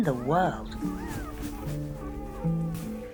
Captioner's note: puppies squeak